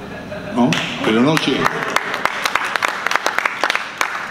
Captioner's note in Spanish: Aplausos del público